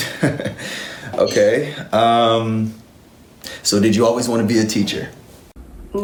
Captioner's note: laughs